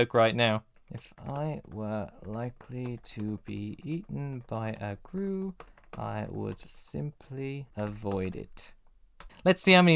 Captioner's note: faintly, while typing